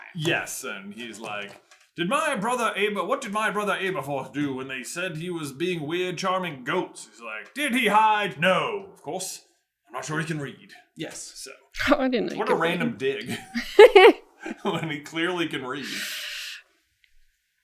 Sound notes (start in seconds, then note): 13.0 laughter